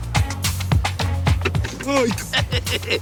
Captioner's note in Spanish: Toques en el cristal